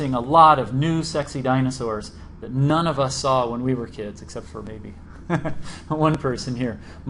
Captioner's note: laughs